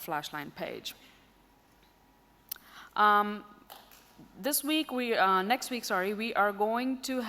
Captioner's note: silence